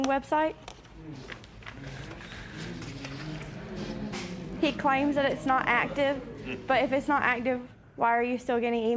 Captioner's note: spectators murmur